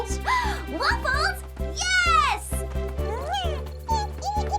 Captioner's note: excited gasp